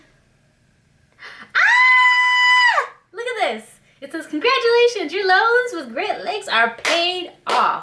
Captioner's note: screams